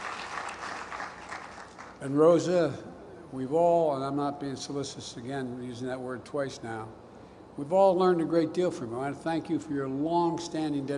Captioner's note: applause